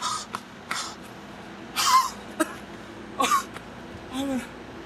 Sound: panting; coughing, wheezing

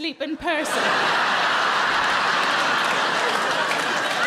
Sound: crowd laugh

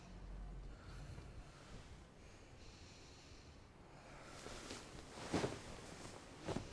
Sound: soft snoring

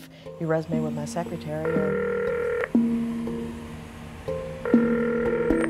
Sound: phones ringing

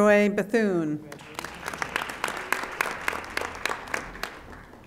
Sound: audience applauding

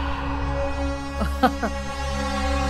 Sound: nervous chuckle

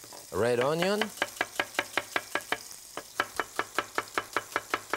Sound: knife chopping

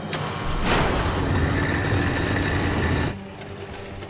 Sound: churning

